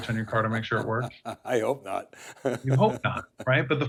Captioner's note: chuckles